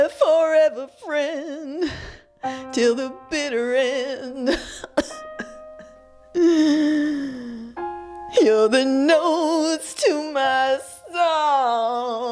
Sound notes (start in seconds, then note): 4.5 coughs; 6.4 wheezes